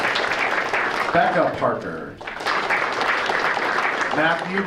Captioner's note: audience applauding